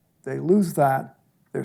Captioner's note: none